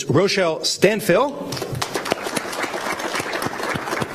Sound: applause

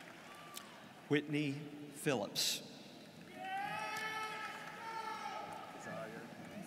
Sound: students cheering

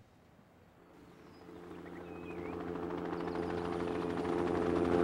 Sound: helicopter hovering

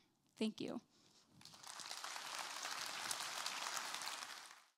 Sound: applause

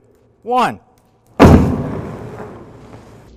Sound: explosion

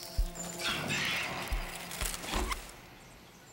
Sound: demonic Voices

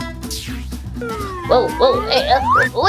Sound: whistling

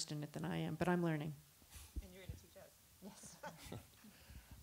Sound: laughs

